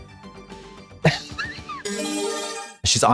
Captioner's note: bright chime